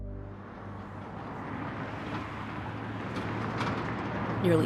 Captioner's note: eerie music; car whooshing